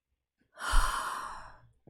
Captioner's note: exhales